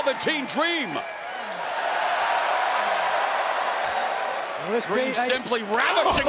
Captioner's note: crowd cheering